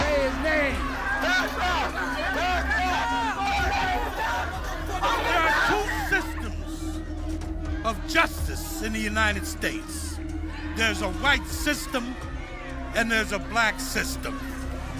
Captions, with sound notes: Say his name. (people shouting) There are two systems of justice in the United States. There's a white system, and there's a Black system.